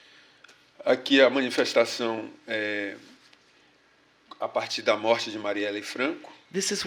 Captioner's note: speaking portuguese